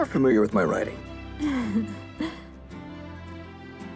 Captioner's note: happy laugh